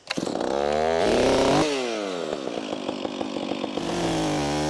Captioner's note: chainsaw roaring